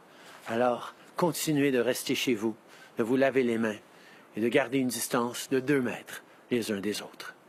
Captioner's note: speaking French